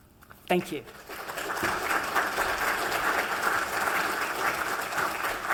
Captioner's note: applause